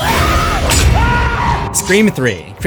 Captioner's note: screams